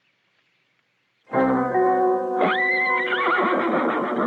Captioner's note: neighing